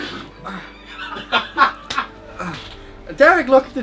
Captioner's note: laughter